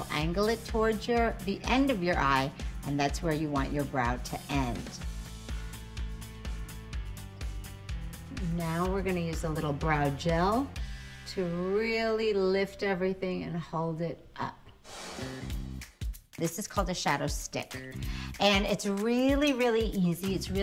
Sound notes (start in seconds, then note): 5.2 upbeat music continues; 14.8 air whooshing; 14.9 upbeat music